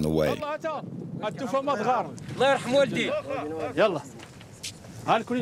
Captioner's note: Arabic spoken audio